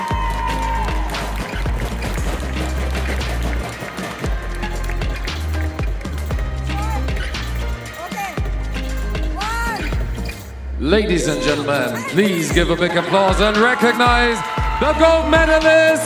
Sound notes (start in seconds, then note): 0.0 applause; 3.2 audience stomps with their feet on the metal stands